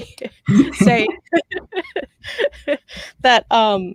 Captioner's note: laughs